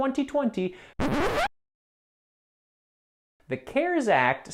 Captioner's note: record screeches